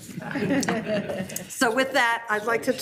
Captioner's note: attendees laughing